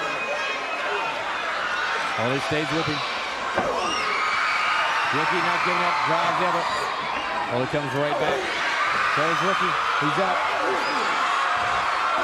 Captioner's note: crowd chatter